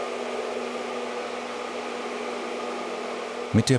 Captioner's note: whirring